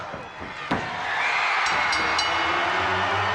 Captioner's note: crowd cheering; bell dinging; upbeat music